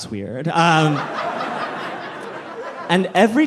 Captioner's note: audience laughing